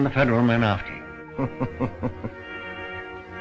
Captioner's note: chuckles